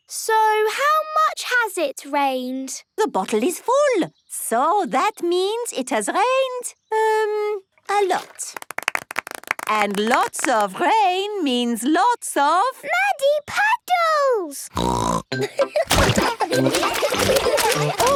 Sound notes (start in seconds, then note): 14.7 snorting; 15.4 laughter